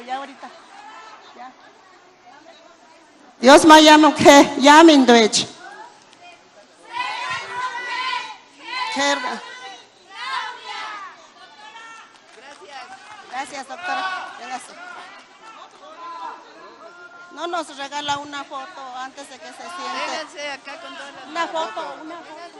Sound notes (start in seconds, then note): 12.0 applause